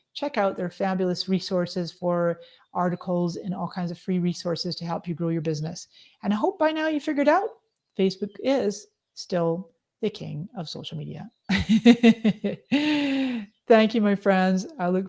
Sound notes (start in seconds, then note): 11.5 laughs